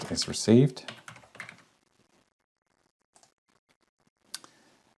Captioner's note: keyboard clicking